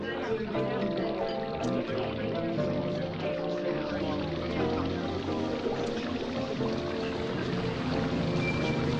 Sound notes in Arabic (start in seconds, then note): 2.2 رشات الماء